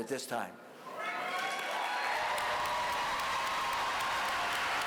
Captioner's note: applause